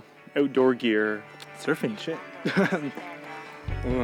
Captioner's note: chuckle